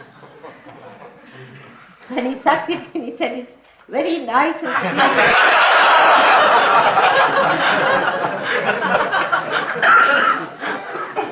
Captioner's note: laughter